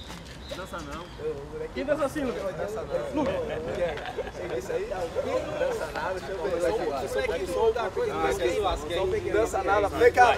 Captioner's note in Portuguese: atletas conversando ao fundo